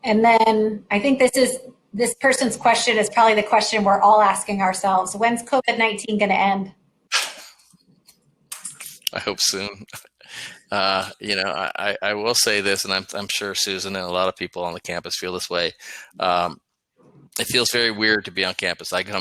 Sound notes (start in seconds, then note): 9.2 laughter